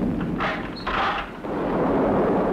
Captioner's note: sound of key turning